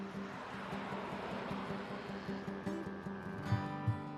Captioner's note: cows mooing